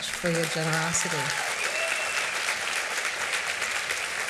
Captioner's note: cheers and applause